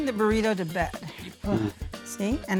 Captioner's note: sighs